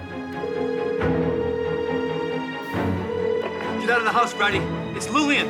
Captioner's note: phone ringing